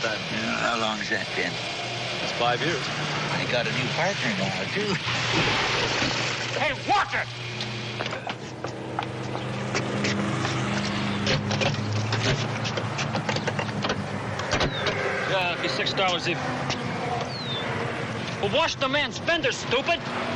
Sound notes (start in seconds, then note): 0.0 chuckles; 8.7 splash